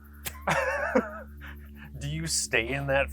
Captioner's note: both laughing